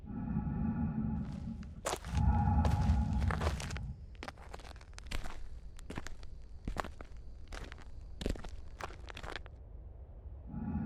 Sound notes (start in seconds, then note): 4.2 Jack foot falling